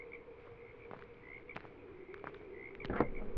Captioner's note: footsteps; trunk swings up